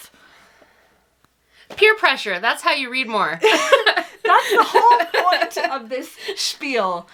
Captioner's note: laughs